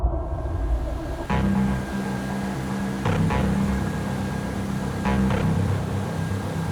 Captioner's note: engine whirring; light adventure music